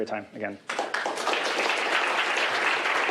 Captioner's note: applause